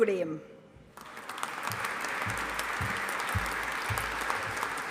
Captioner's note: audience applauding